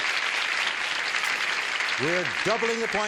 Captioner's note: applause